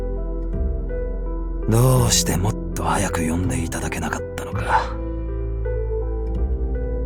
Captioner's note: sigh